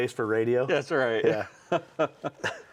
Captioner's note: laughs